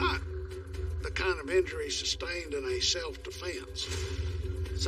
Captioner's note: gunshot